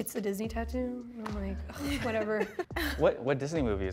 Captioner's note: laughter